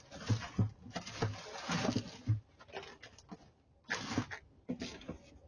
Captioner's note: paper rustling